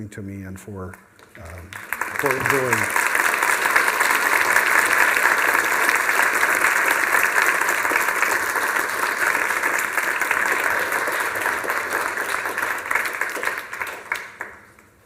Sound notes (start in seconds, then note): 2.9 applause